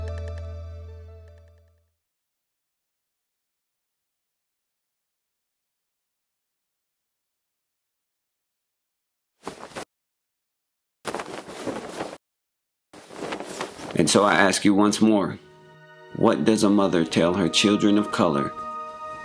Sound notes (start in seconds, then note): 10.8 flag rustling